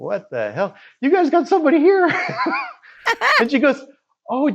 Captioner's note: laughs